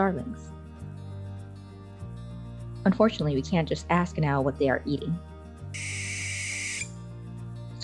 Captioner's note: barn owl screech